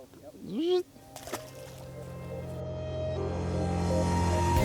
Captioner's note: splashing; upbeat music